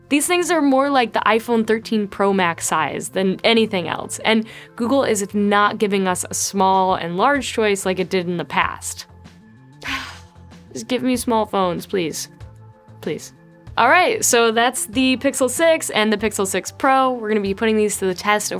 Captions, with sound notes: These things are more like the iPhone 13 Pro Max size than anything else. And Google is not giving us a small and large choice like it did in the past. (exhales) Just give me small phones, please, please. All right. So that's the Pixel 6 and the Pixel 6 Pro. We're gonna be putting these to the test